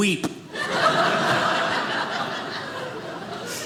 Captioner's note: audience laughing